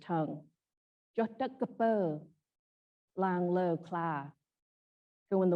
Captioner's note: speaks in Khmer